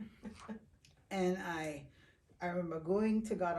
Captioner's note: chuckling